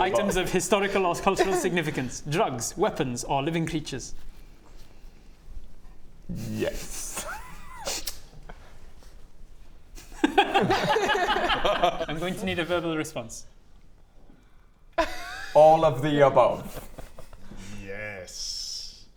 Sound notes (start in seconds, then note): 10.2 doomed laughter